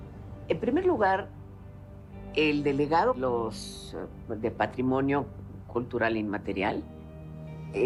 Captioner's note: in Spanish